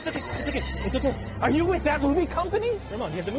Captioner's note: none